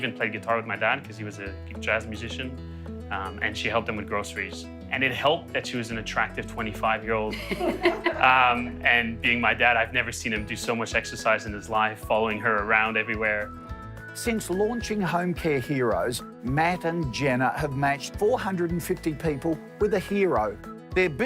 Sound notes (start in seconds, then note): 7.3 laughing